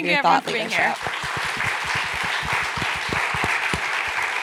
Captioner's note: applause